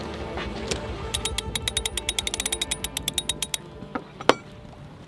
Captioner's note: gear clacking